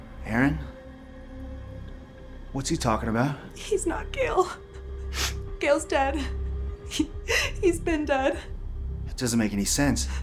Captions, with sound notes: - Erin, what's he talking about? - He's not Gale. Gale's dead. (crying) He's been dead. - It doesn't make any sense.